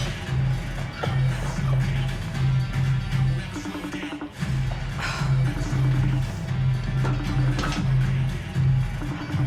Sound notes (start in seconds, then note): 3.1 singing; 4.8 sighs; 6.0 phone ringing, upbeat music